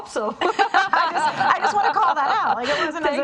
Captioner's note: laughing